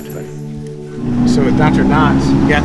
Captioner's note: jingling